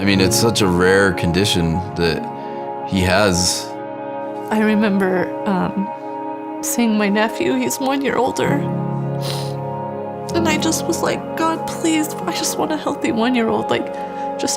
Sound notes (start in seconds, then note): 9.1 sniffles